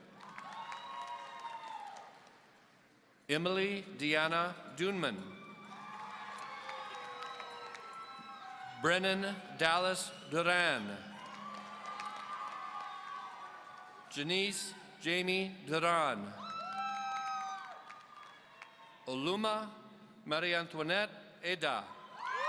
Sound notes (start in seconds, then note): 0.0 audience cheering; 5.6 audience cheering; 11.2 audience cheering; 16.3 audience cheering; 21.7 audience cheering